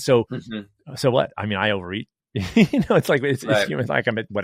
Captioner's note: laughs